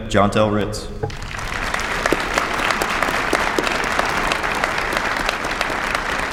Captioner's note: applause